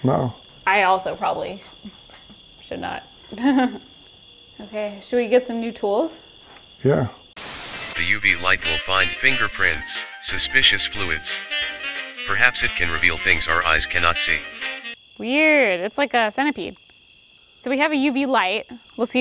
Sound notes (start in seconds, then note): 3.3 laughs; 7.4 white noise hisses; 8.0 upbeat music